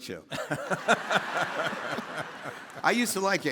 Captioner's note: all laughing